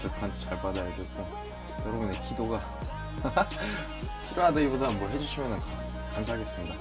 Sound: haha

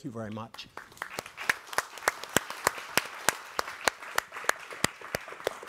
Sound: group applauding

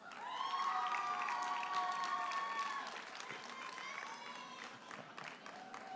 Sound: audience cheers and applauds

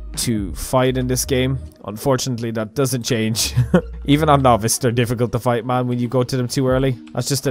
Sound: chuckle

